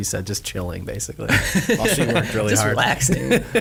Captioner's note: laughing